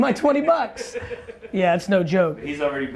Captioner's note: laughter